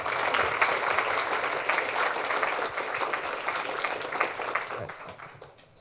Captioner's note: applause